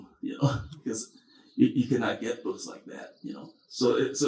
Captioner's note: chuckles